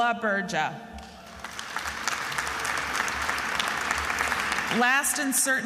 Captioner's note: attendees applauding